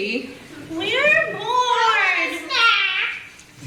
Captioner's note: kids voices